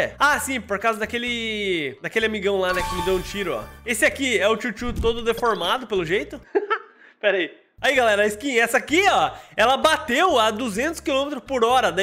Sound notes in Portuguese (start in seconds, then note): 6.4 risos